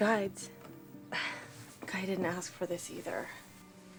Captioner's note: sighs